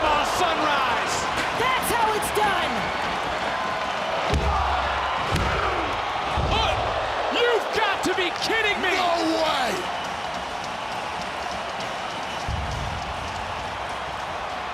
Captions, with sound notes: Panama Sunrise. That's how it's done. (crowd cheers) (crowd counts) (referee taps) You've got to be kidding me. No way. (crowd cheers)